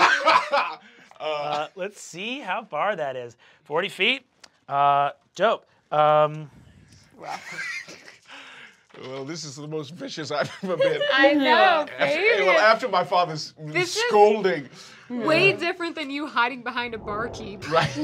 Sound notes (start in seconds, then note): 0.1 Fabian laughs; 7.2 snickering